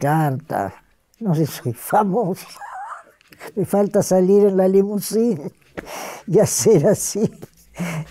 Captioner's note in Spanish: risas